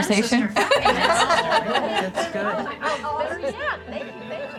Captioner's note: attendees laughing